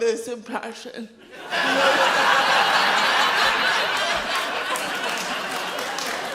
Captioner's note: audience laughs loudly